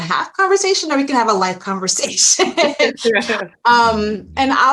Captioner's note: laughs